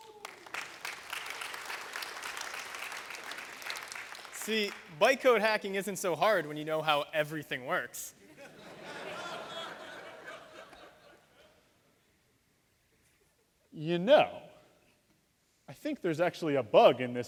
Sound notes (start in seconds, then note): 0.0 applause; 8.2 laughter